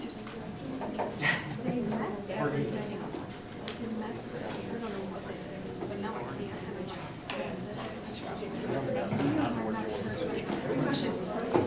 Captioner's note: talking amongst audience